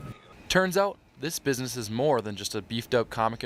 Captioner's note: voiceover